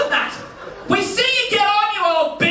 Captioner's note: yells